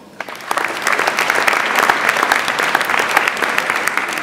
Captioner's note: audience applauds